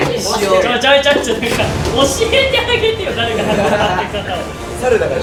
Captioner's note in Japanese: 笑い声